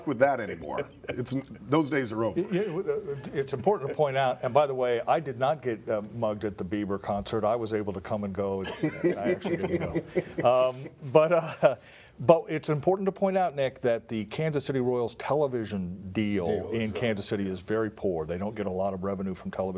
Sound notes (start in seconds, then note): 8.6 laughter